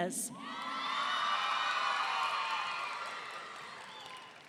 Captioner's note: audience cheering